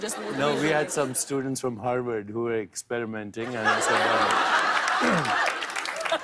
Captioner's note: laughter and applause